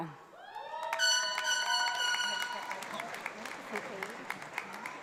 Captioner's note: audience applauds